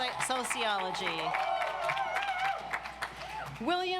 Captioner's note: audience applauds